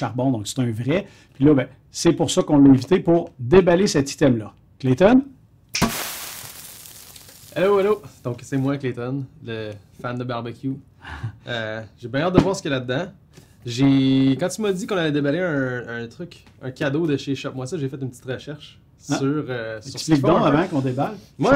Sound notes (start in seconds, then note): 5.6 snap of fingers; 5.7 jiggling of confetti